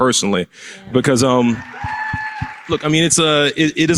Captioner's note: applause